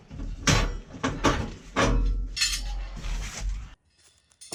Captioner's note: metal Clanking